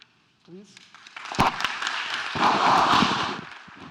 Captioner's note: applause